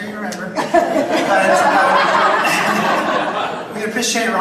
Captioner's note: audience laughs